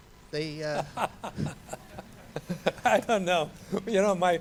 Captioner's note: laughs